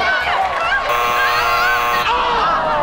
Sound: buzzing

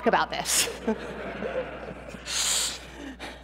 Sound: laughter

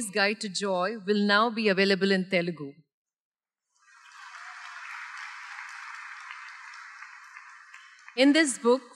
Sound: applause

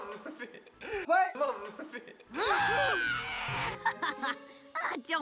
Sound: laughing; screaming; laughing

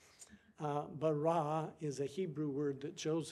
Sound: speaking foreign language

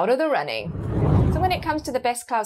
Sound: screen whooshing

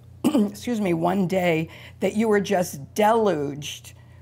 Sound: coughs

